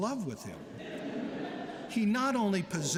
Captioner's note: laughter